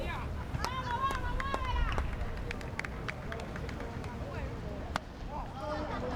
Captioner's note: fans yelling in foreign language